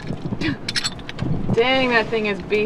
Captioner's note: laughs